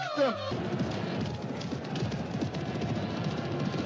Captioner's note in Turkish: atlarin nal sesleri̇